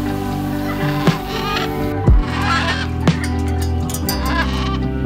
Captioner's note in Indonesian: Suara Burung